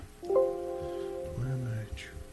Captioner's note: windows sound effect